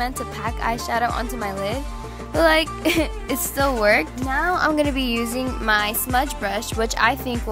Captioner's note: laughs